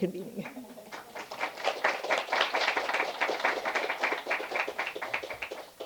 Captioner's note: applause